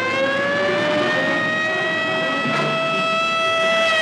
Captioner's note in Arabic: صافرات الإنذار تصرخ